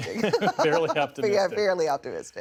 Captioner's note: laughter